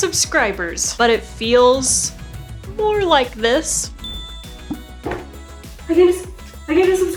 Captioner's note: notification sound